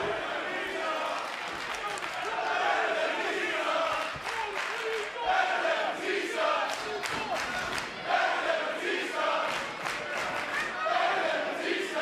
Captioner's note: fans chanting